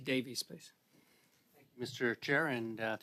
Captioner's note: speaking French